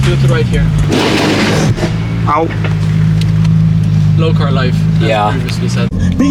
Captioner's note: scrapes in Italian